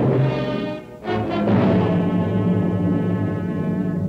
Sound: none

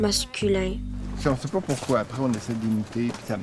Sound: speaking in French

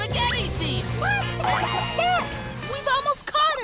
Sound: cackling

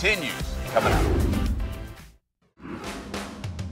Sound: air whooshing; upbeat music

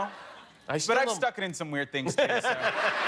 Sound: laughter

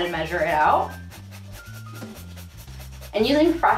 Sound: grater scapes

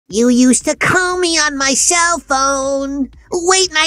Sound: Bugs Bunny voice

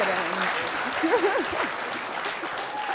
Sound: laughter

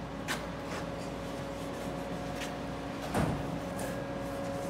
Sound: paper wiping

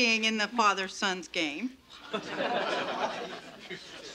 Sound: parents laughing

